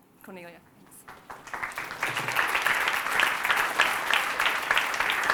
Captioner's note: applause